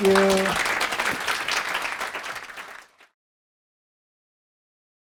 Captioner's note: applause